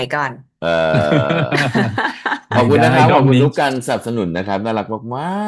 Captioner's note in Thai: เสียงหัวเราะ